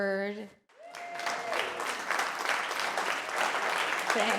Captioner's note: applause